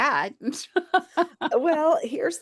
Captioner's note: laughs